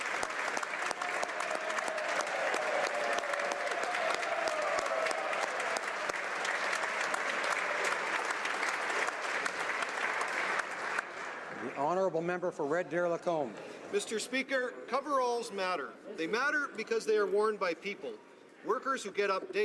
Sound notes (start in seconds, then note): 4.7 applause